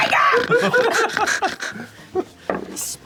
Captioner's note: snoring